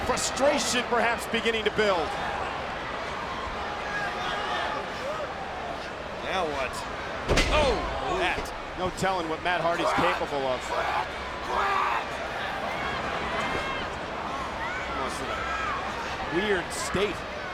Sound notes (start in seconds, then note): 3.1 audience chattering; 7.2 body thuds; 12.9 audience chattering